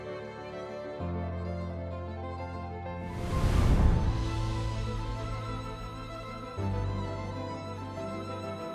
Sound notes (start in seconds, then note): 3.0 graphics whooshing